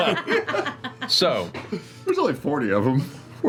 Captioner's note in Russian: смех